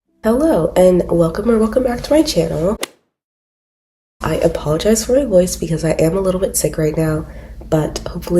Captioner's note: golf hit sound effect